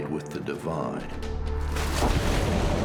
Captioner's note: splashes